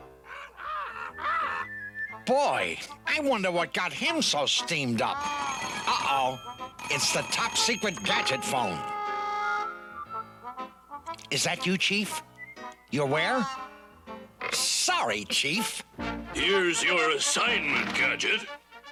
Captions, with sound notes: [BOTH SQUAWK] BOY, I WONDER WHAT GOT HIM SO STEAMED UP. [TELEPHONE RINGS] UH-OH, IT'S THE TOP SECRET GADGET PHONE. IS THAT YOU, CHIEF? YOU'RE WHERE? SORRY, CHIEF. HERE'S YOUR ASSIGNMENT, GADGET.